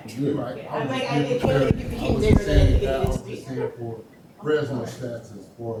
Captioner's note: audience members chattering